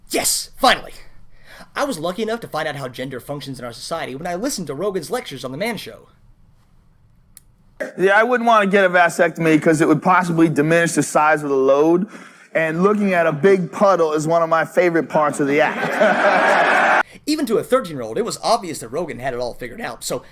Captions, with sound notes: Yes, finally! I was lucky enough to find out how gender functions in our society when I listened to Rogan's lectures on The Man Show. Yeah, I wouldn't want to get a vasectomy 'cause it would possibly diminish the size of the load, and looking at a big puddle is one of my favorite parts of the act. [laughter and start of cheers] Even to a thirteen-year-old it was obvious that Rogan had it all figured out, so,